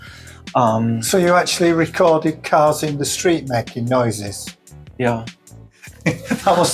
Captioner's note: laughter